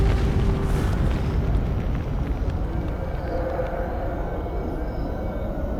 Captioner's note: wind howls